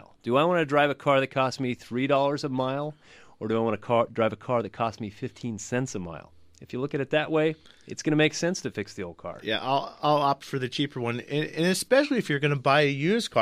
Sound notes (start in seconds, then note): none